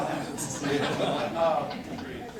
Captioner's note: corporate laughter